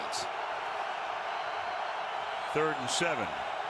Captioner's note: crowd clamoring